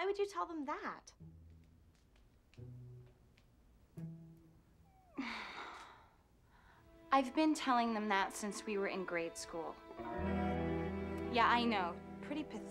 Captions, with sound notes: WELL, WHY WOULD YOU TELL THEM THAT? ( sighing ) I'VEEE BN TELLINTHG EMHA TT SIE NCWE WERE IN GRADE SCHOOL. YEAH, I KNOW.